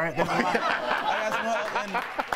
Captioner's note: laughter